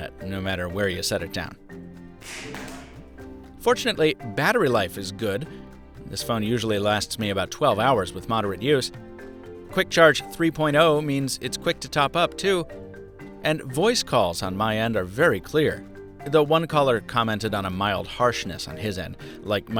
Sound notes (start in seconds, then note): 2.2 phone crashing on floor